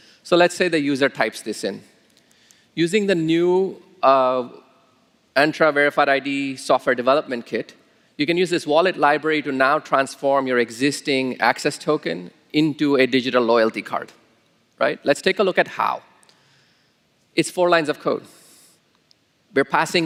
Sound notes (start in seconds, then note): none